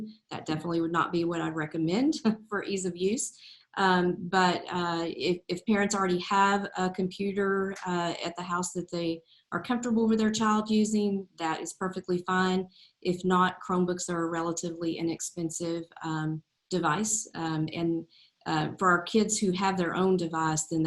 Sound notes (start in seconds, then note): none